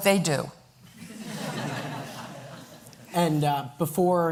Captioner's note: laughter